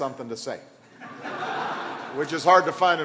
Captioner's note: laughter